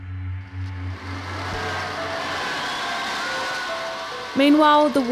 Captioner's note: cheering